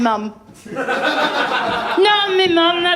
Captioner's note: laughter